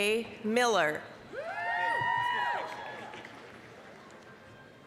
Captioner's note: applause, cheering